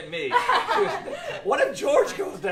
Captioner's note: laughter